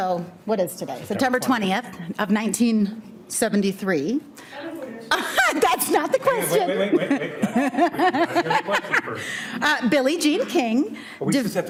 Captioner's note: laughs